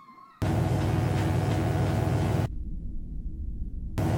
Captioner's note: electric buzzing